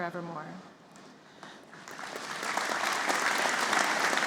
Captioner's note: applause